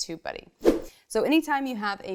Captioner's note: fast whoosh